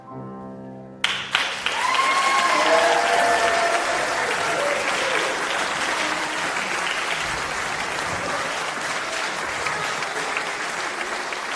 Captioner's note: applause